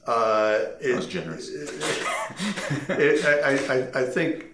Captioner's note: laughing